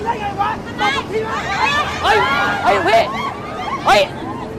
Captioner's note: screaming